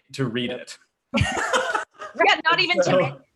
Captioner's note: laughs